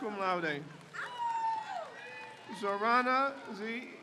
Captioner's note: crowd cheers